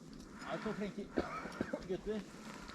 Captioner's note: cough